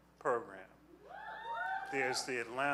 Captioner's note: audience cheering